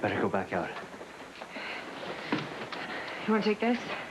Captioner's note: sighs